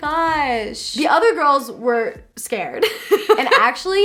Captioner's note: laughs